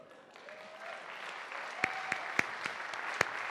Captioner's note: applause